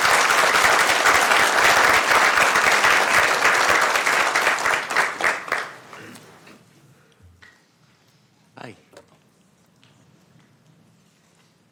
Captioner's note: applause